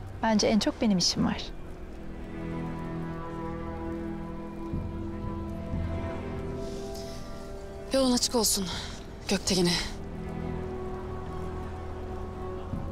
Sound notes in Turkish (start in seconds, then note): 6.6 İç çekiyor